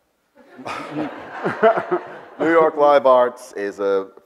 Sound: Bill and audience laugh

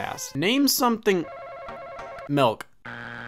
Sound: upbeat music; bell ringing

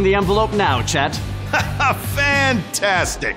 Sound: laughter

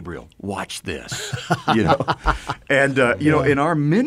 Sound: group chuckles

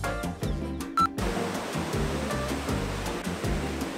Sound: waves lapping

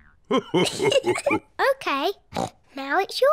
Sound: laughs

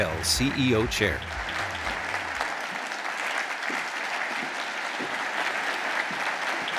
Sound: audience applauding

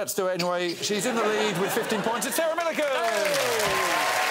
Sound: crowd groaning

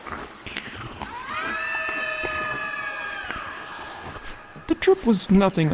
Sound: screaming

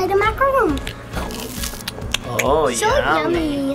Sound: macaroon crunching; lips smacking

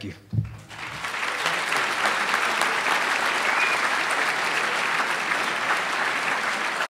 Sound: applause

